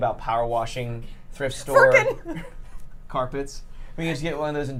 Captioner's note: laughs